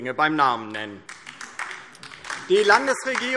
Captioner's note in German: Beifall DIE LINKE